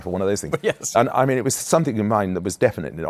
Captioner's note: chuckling